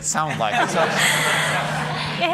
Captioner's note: laughter